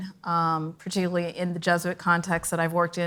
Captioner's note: none